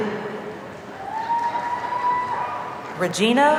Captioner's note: audience cheering